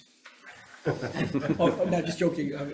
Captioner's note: laughs